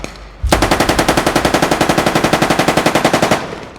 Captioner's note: gunshots